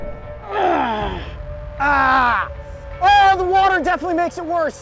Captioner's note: groans